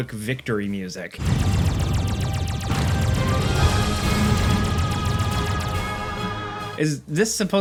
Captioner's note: laser gun blasting; rousing orchestral music